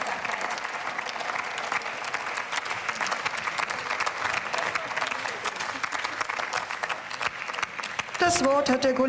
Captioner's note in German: Beifall